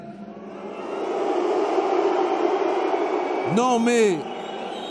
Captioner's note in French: Sifflements